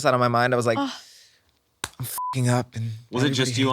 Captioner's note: beep